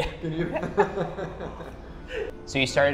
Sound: laughs

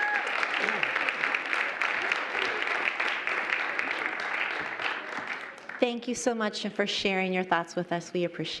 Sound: applause

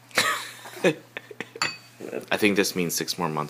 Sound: laughing

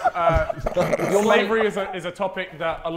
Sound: Sidemen laughing

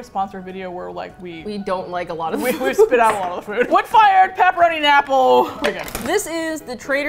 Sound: laughs

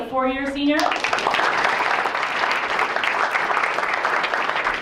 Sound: applause

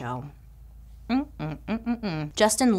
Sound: negative muttering

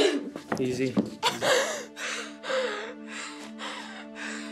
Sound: chuckles

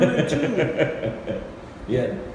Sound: chuckles

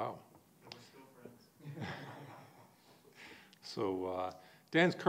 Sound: laughs

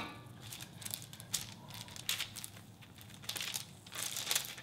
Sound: pan thuds; paper rustling

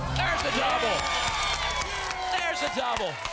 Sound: audience applause

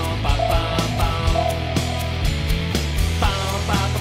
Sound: radar pings

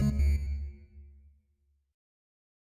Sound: music stops

